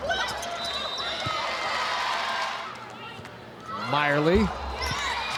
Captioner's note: whistle blowing; audience cheering